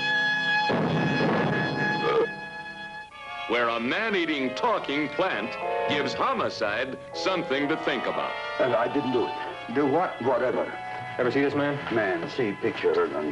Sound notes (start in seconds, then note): 1.8 plant belching